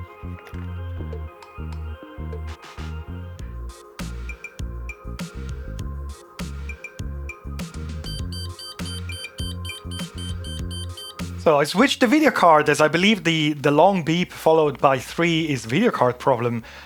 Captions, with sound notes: (beeping) So I switched the video card as I believe the long beep followed by three is video card problem.